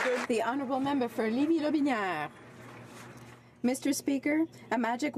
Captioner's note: some Applause